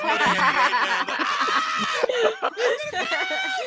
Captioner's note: yelling